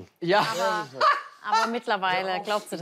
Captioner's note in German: lacht laut